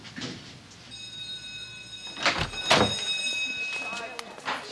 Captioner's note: bell ringing; door opens